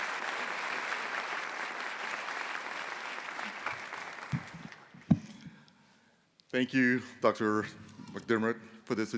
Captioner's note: applause